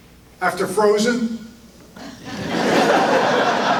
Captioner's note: audience laughter